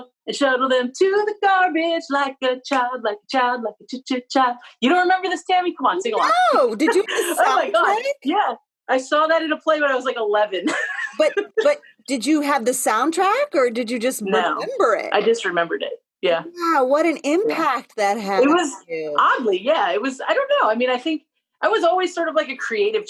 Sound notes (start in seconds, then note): 14.2 laughter